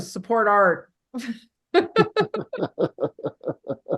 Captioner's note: laughing